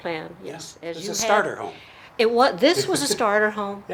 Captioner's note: laughing